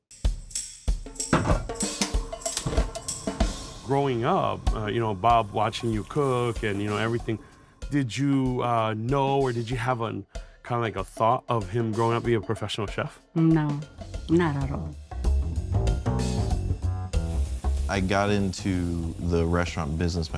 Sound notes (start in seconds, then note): 0.1 lively upbeat music; 15.1 jazzy upbeat music; 17.1 wok sizzles